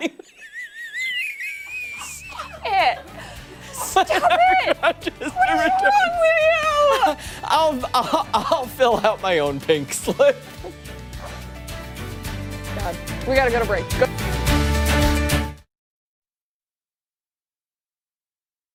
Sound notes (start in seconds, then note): 7.9 laughter